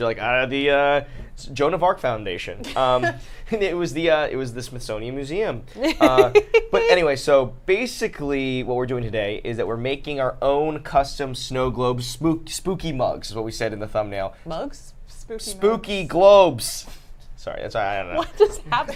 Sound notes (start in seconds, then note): 2.6 laughs; 5.8 laughs